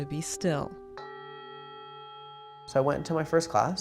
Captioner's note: bell ringing